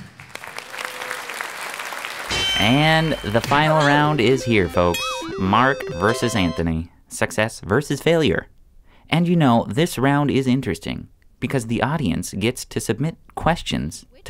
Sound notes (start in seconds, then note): 0.0 applause; 2.3 bell dings